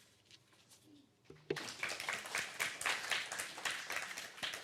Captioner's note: applause